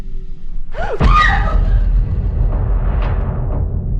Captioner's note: screams